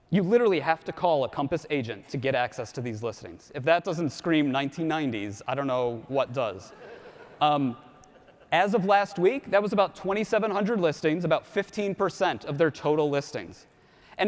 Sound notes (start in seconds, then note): 6.7 audience laughs